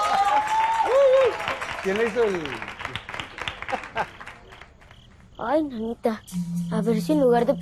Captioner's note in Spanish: gritos y aplausos